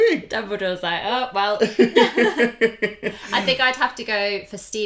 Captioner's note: laughter